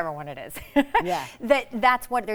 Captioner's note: chuckles